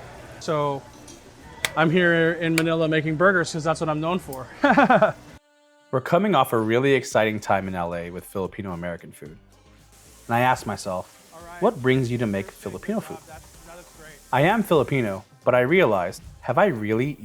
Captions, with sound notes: So I'm here in Manila making burgers 'cause that's what I'm known for. (laughs) We're coming off a really exciting time in LA with Filipino-American food. And I ask myself, "What brings you to make Filipino food?" I am Filipino but I realized, have I really eaten